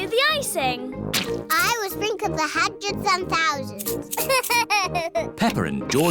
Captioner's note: laughs